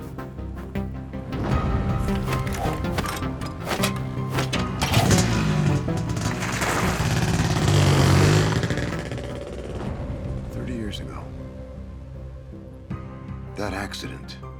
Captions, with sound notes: (dramatic music continues) (motorcycle rumbles) - 30 years ago, that accident,